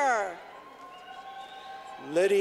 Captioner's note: clapping